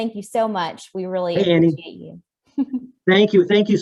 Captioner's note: chuckles